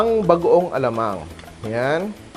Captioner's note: sizzle